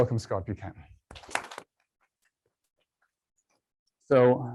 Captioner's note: applause